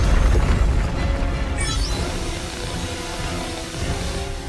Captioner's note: lost signal